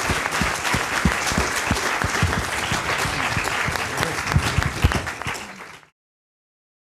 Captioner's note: applause